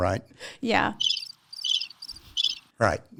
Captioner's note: cricket noises